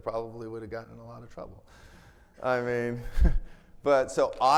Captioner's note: chuckles